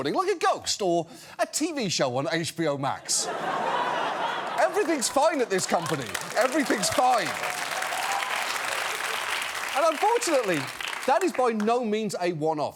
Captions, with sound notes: Like a ghost, or a TV show on HBO Max. (LAUGHTER) Everything's fine at this company. Everything's fine. (APPLAUSE) And unfortunately, that is by no means a one-off.